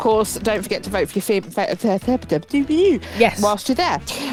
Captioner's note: stutters